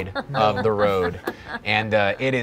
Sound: laughing

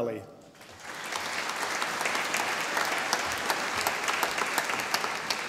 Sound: audience applauding

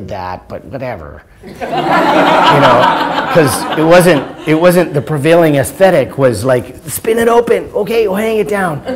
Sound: laughter

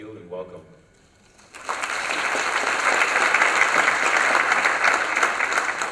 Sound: applause

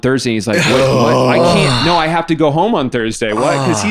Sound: all groaning

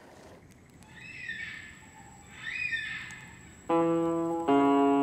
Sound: bird squawking

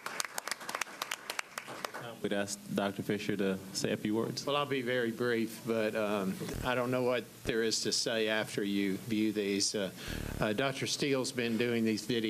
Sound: applause

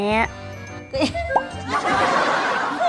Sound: can't hold back her laughter

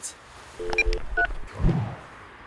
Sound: piep

